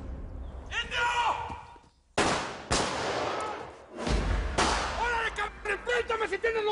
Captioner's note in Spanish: Disparos